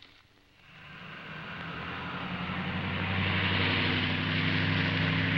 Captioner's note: car engine roaring